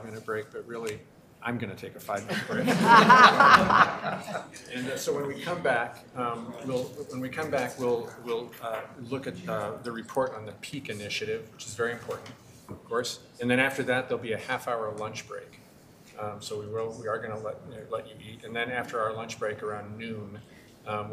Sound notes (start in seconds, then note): 2.2 members laughing